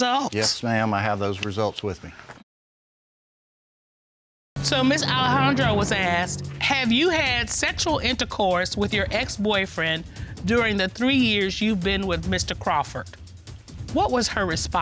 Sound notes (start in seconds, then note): 4.3 audience laughing